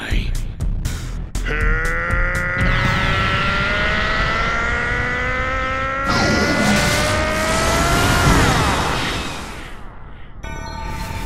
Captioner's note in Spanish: Gritos